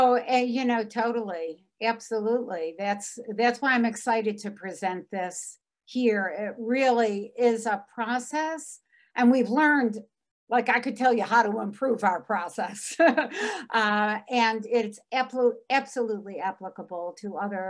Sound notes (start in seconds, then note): 12.9 laughs